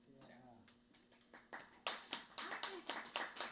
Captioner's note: clapping